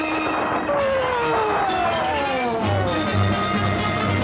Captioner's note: siren wails; tense dramatic music continues